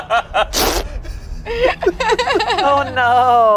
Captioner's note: everyone laughs; makes splat sound